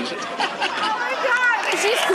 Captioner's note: audience applauding